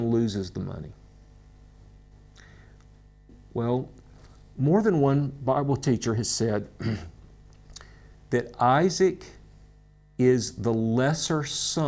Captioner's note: clears throat